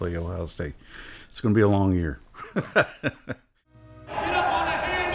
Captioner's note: laughs